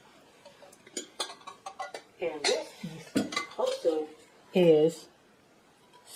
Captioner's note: sound of metal dish jostling around